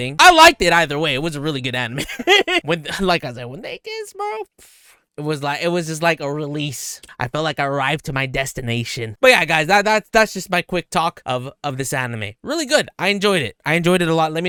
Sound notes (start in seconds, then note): 2.0 laughs; 4.7 scoffs